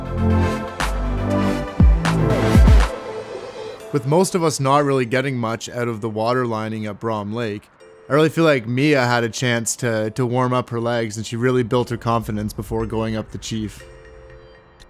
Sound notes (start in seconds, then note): none